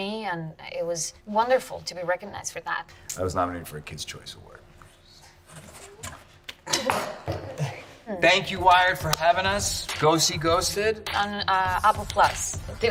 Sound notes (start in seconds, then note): 6.6 chuckles